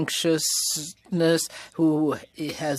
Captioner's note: speaking French